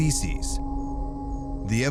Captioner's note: crickets chirping